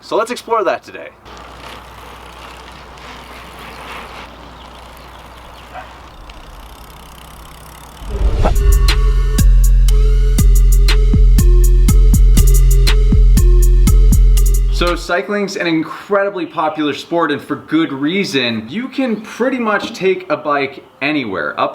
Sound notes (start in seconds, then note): 1.3 bicycle clicking; 8.3 upbeat music